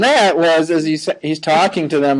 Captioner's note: laughing